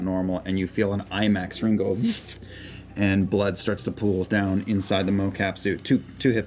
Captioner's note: slicing noise